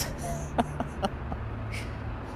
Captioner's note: laughs